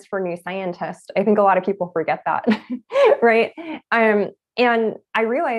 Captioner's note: laughs